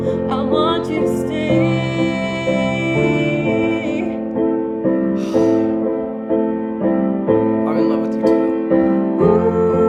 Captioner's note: sighs